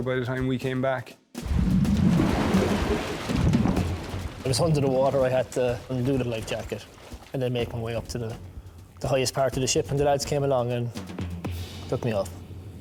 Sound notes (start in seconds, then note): 1.4 water gurgling; 1.4 water whooshing; 3.2 intense music; 12.6 intense music